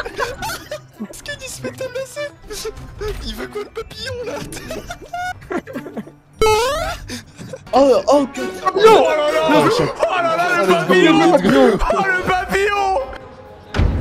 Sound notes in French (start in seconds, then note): 0.0 Rires